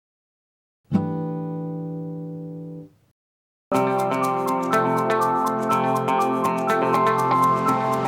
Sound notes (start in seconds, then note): 0.9 chime sounds; 3.7 upbeat music